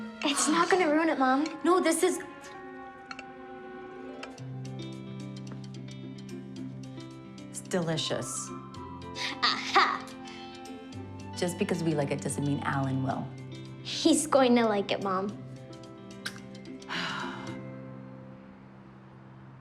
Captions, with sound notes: - It's not going to ruin it, Mom. - No, this is... (slurps) ...delicious. - Ah-ha! - Just because we like it, doesn't mean Allen will. - He's going to like it, Mom. (sighing)